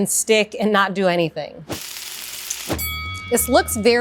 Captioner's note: pan sizzling; bell rings